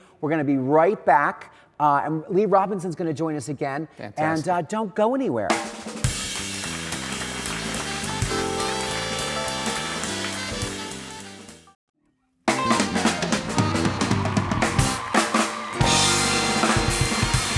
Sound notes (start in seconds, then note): 5.5 live band music; 6.0 audience claps